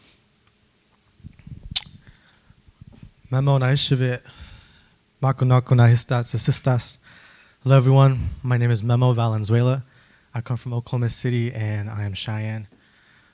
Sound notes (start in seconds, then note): 5.1 speaking Cheyenne